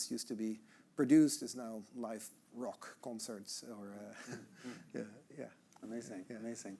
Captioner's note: chuckling